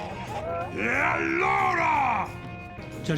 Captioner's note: shouting